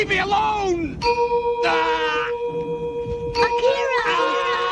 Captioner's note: A bell rings, Tetsuo groans